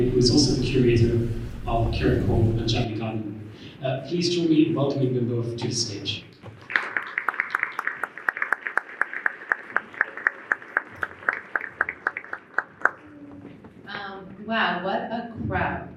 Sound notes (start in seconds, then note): 6.6 applause